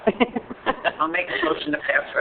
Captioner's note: laughing